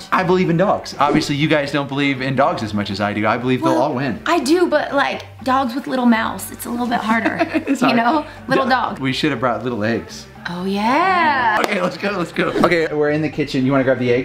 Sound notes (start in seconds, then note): 7.1 laughs; 11.6 claps